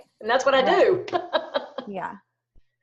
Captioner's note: laughs